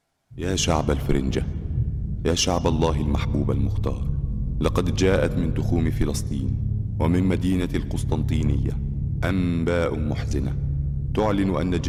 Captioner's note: speaking arabic